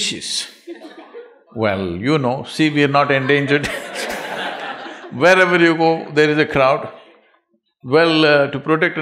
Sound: laughter; laughter

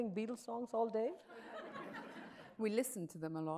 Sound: audience laughs

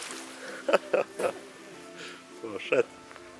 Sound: laughs

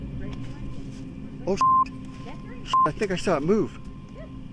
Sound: beep

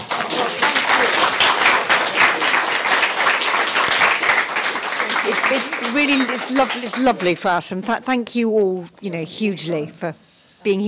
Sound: applause

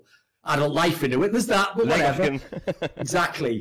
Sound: laughs

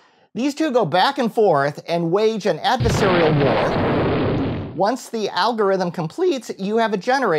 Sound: crash

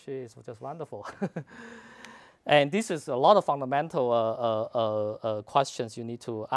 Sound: laugh

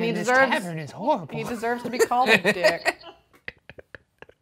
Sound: laughing

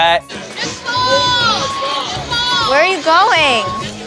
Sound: scooter beeping

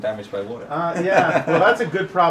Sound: laughs

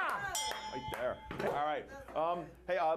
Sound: bell rings

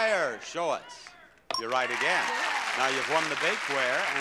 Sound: bell rings

